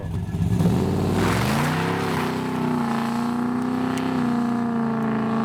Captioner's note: car engine revving